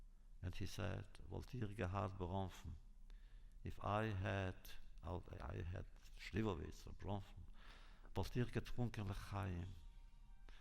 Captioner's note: Yiddish